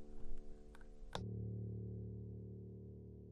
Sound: click

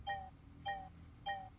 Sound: battery low beep

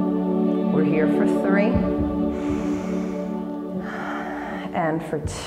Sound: exhale; inhale

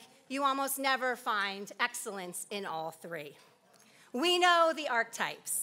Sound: none

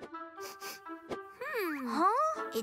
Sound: sniffs

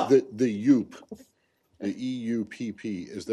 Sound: laughter

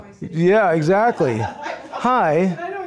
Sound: audience laughing

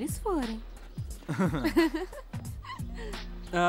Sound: laughing

